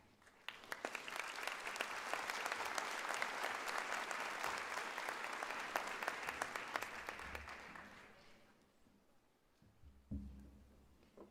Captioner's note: applause